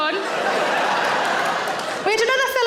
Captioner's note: audience laughs